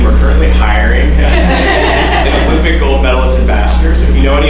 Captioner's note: laughter